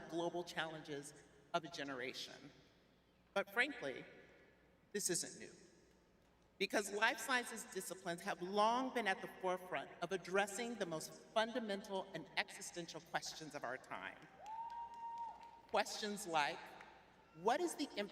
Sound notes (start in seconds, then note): 14.3 cheering; 14.4 clapping